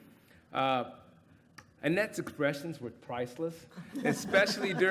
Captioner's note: laughter